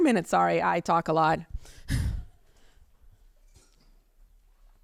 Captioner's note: chuckles